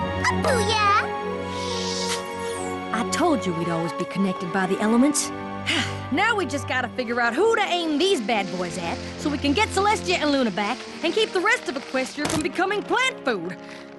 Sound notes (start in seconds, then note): 5.6 sigh